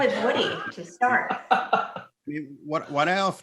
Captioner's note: laughs